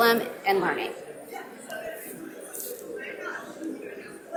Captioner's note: audience mumbling